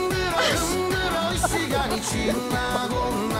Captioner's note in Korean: 탈탈